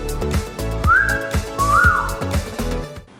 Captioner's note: whistling in amazement